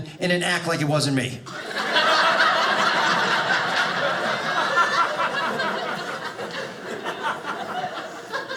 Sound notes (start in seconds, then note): 1.4 audience laughing